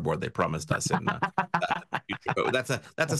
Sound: laughs

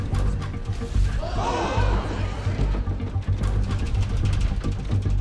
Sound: passengers gasping

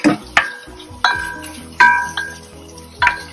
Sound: sound of stir-frying

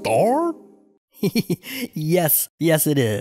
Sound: laughs

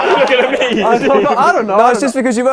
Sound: people laughing

